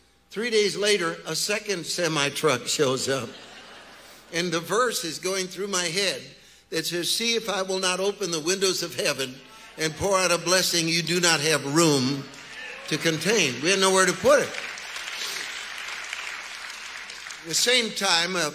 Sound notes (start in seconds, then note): 15.4 congregation applauding